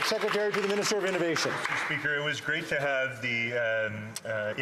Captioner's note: some Applause